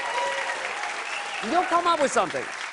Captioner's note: cheers and applause